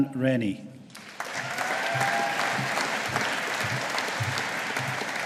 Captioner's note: audience applauding